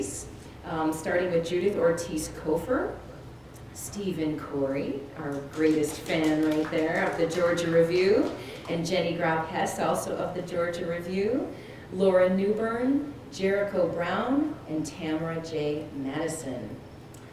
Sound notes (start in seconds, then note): 5.2 applause